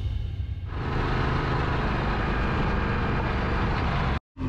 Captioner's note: motorbike roaring